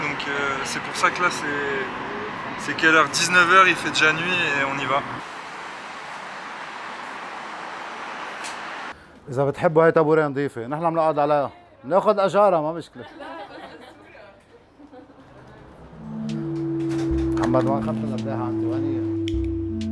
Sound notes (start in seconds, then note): 14.8 laughs